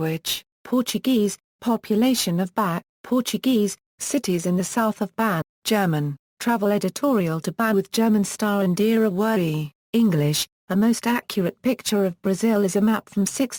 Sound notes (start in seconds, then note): 6.2 German